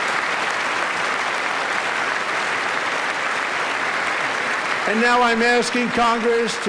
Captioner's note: applause